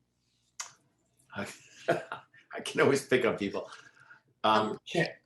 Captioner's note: chuckles